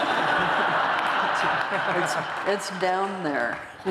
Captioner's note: laughter